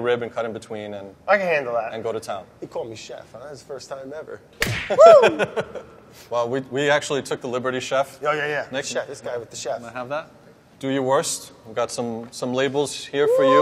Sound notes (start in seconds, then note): 4.6 hand slaps; 5.0 laughing